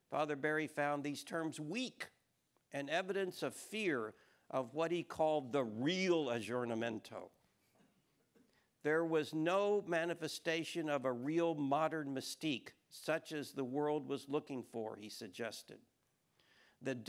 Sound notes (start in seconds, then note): 5.7 speaking foreign language